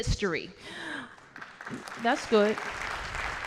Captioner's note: applause